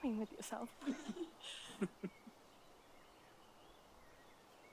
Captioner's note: giggling